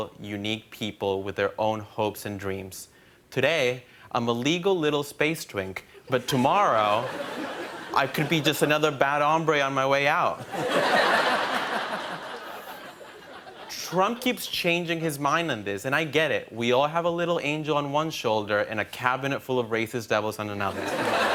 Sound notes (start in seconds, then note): 10.4 laughter; 20.7 laughter and applause